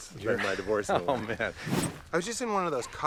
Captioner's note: laughs